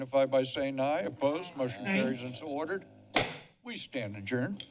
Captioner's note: bangs gavel